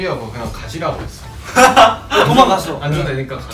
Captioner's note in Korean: 웃음